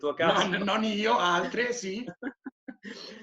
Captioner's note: laughing